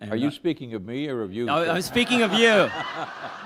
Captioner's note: laughter